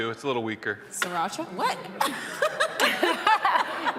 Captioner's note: audience laughing; laughs